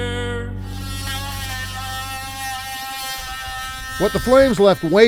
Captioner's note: machine buzzing